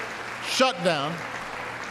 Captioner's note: applause